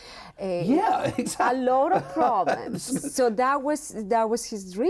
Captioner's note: laughs